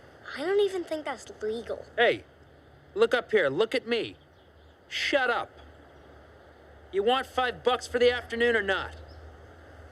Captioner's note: none